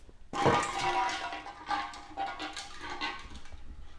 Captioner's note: object clatters